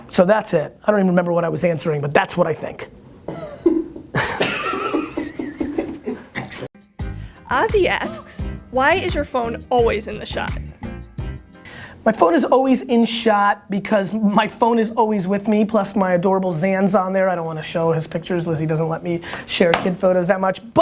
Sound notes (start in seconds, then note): 3.5 laughing; 7.5 voiceover